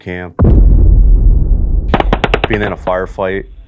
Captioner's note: rpg firing